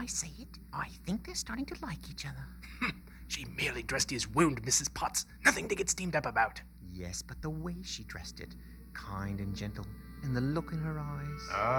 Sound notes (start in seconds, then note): 2.5 scoffs